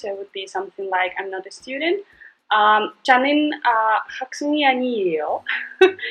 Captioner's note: speaking in Korean